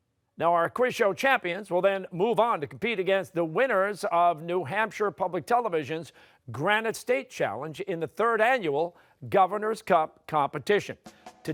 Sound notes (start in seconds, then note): none